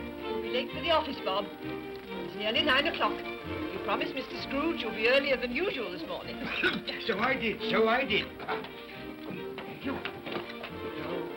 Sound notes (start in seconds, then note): 6.3 Cratchit coughs